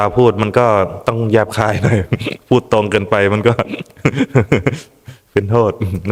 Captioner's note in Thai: เสียงหัวเราะ